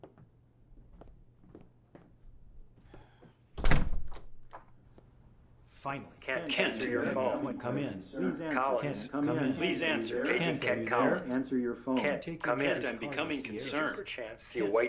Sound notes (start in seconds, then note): 3.6 door thudding